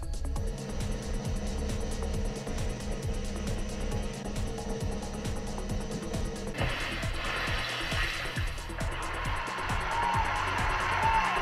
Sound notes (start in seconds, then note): 0.0 drumroll; 6.5 water splashing; 9.6 applause